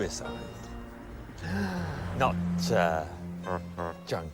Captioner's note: gasps